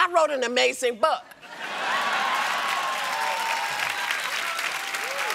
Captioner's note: cheers and applause